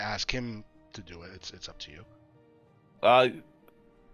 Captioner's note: none